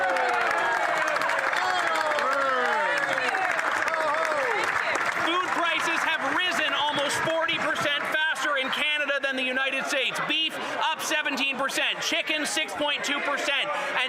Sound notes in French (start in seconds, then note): 3.0 voix de l'interprète